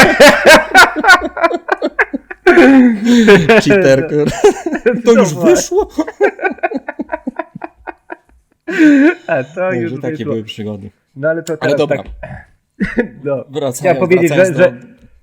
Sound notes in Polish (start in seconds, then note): 6.9 śmiech